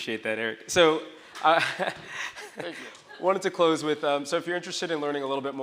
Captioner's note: chuckles